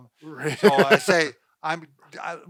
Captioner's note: laughing